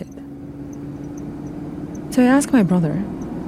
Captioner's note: car engine revving